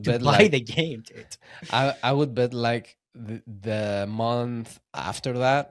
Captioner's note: laughs